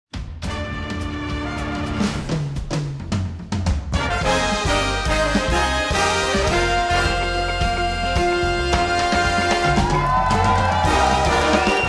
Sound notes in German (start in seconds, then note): 0.0 Flotte Bigbandmusik; 9.0 Jubel